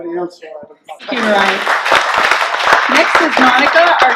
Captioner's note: clapping